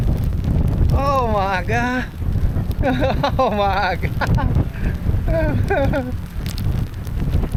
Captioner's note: laughing